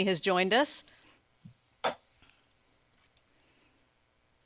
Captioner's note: silence